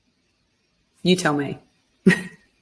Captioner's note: laughs